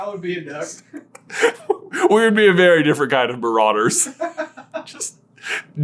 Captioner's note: both laughing